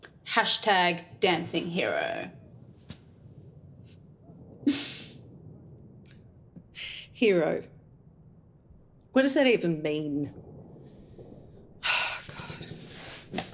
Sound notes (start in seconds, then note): 3.8 laughs